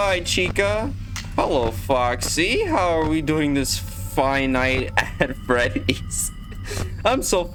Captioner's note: laugh track